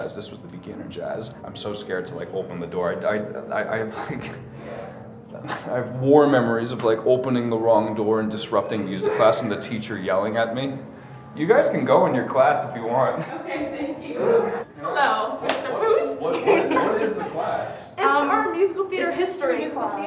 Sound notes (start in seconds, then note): 13.2 laughs